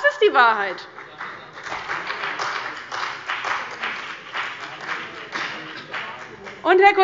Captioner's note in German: Beifall bei dem BÜNDNIS 90/DIE GRÜNEN und der CDU